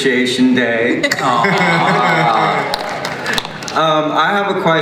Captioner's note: cast awes and claps